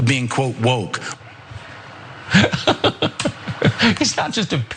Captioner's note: laugh